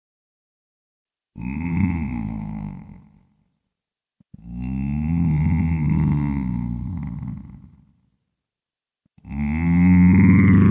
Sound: monster growl

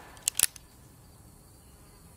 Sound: click

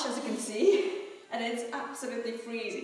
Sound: laughing

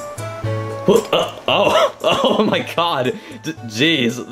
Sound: joyful music; laughs

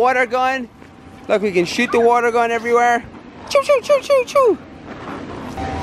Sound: shooting sounds

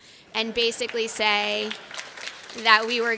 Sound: laughter and applause

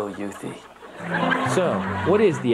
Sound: audience laughs

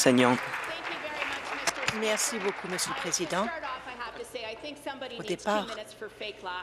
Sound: applause

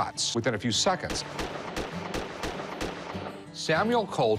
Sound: gun shots

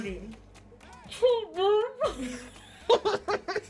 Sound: bust out laughing

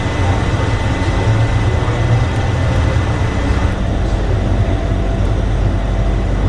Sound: shuttle rumbling continues

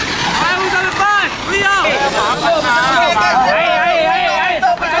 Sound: cheering in foreign language

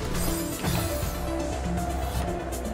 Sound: none

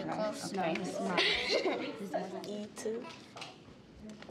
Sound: boy laughs

